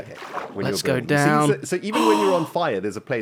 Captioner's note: gasps